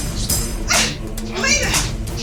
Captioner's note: smack